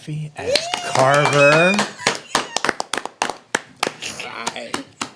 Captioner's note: applauding